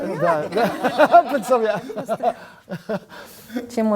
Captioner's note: laugh